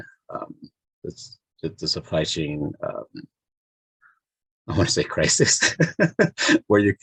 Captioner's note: chuckles